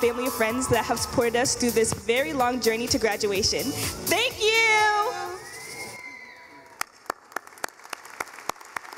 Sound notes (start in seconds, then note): 4.4 in Unison; 6.7 clapping